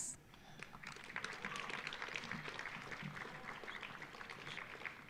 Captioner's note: audience applauding